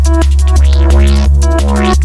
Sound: warp sound

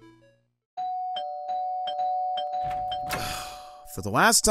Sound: door bell ringing repeatedly

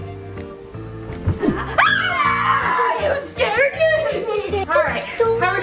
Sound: screams

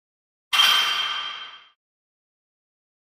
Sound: distant Clank

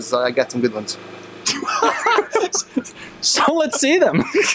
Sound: laughter

